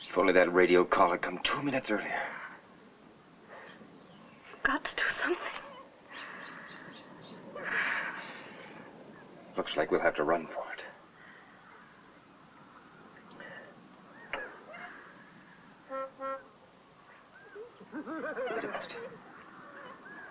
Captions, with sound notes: - If only that radio call had come two minutes earlier. - We've got to do something. - Looks like we'll have to run for it. (horn honks) (Charlie and Judy laughing)